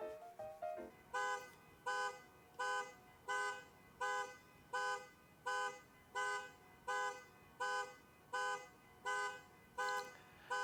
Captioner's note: car alarm horn beeping